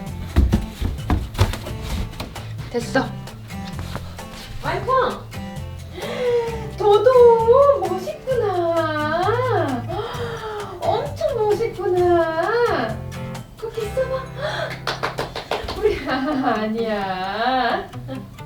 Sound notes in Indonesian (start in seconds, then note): 14.8 tepuk tangan; 16.2 tertawa